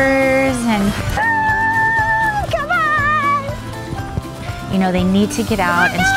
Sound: yelling

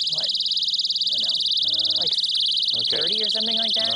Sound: sirens

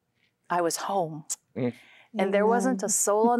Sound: nnnh

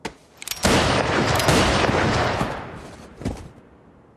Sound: guns firing

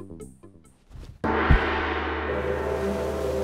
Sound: gong crashes; relaxing music

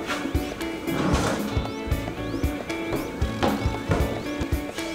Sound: drawer opening

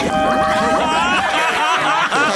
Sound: laughing

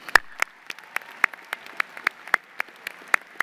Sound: applause

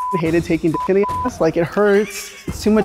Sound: beep; laughing

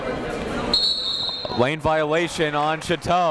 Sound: whistle blows

